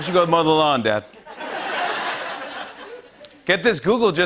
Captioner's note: laughter